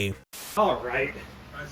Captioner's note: static